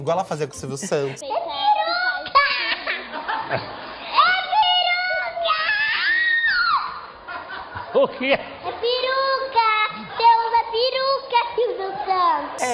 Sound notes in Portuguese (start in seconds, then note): 2.3 risos; 4.2 grita